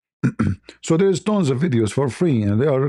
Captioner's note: berdehem